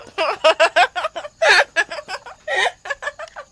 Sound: loud laughter

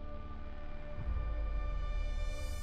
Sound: none

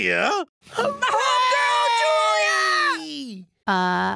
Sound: classmates cheering

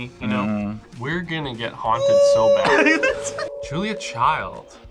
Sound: laughs

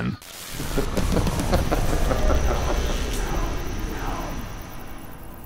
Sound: chuckles

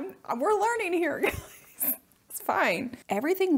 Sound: laughing

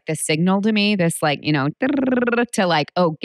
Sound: trills tongue

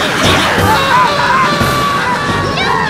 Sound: screaming himself to death

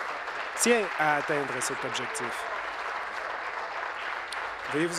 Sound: applause

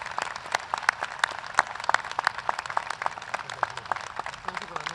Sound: applause

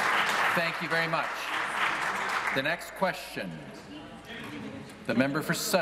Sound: applause

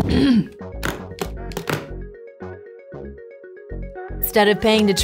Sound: presenter clears throat

